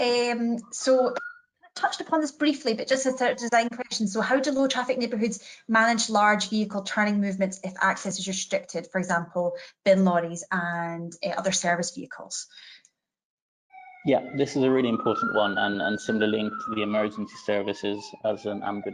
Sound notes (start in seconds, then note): 13.8 ambulance siren wails